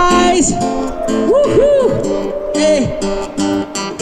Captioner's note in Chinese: 人群欢呼